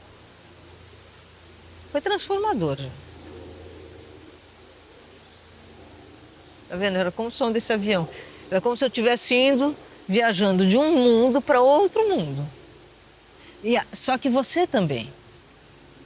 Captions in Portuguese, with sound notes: foi transformador. [Avião passando] Tá vendo, era como o som desse avião, era como se eu tivesse indo viajando de um mundo pra outro mundo. Só que você também.